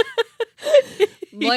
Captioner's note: laughing